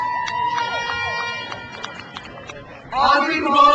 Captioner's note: crowd cheers; horn blares